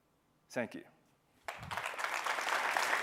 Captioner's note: applause